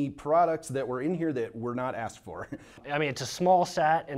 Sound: chuckles

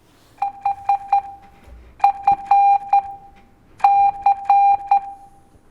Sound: phone beeping rhythmically

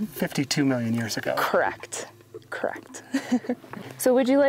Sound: laughs

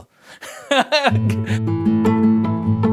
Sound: he laughs loudly; lively music

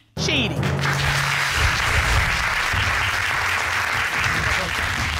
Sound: dramatic music playing; audience applauding

